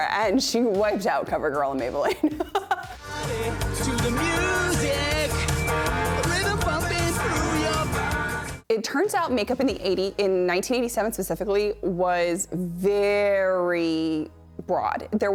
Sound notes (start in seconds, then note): 2.0 laughs